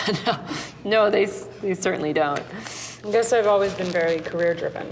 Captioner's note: laughing